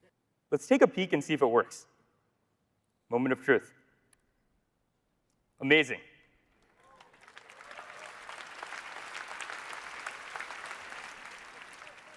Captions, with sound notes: Let's take a peek and see if it works. Moment of truth. Amazing. (audience applauding)